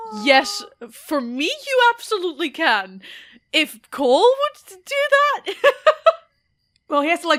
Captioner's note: laughs